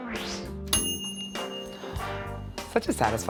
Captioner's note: ding